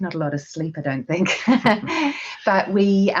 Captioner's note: laughing